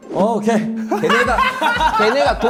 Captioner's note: laughs